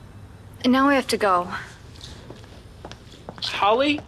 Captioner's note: footsteps clacking